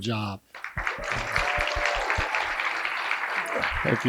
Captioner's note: applause